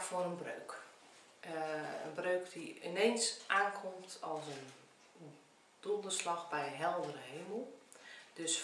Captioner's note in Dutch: Nederlandse uitspraak